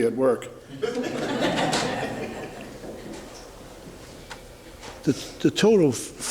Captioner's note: laughter in the courtroom